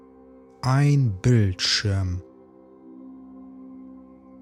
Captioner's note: german